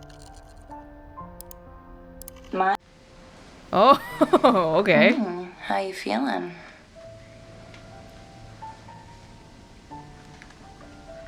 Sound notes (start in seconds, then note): 3.7 chuckles